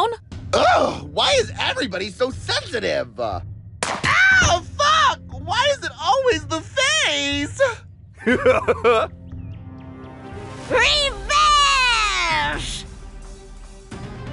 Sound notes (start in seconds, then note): 8.2 chuckles